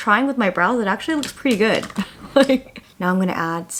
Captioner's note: laughs